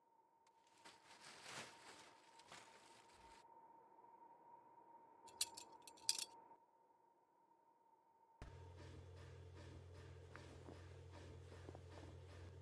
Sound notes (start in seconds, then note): 0.6 tarp sliding; 5.3 handcuffs clink